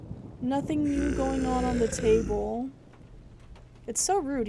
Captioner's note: thunder continues; guttural Noises